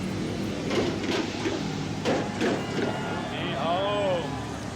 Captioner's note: buses thunking